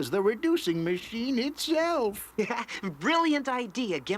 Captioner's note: Gimmick chuckles; Teddy chuckles